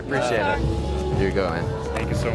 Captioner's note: laughs